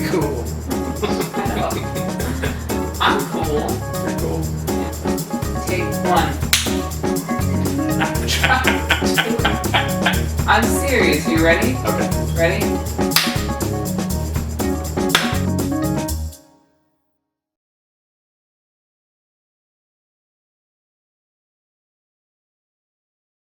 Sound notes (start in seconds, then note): 12.8 hand clap